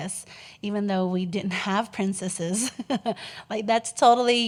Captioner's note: giggles